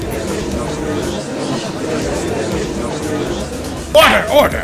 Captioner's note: gallery chattering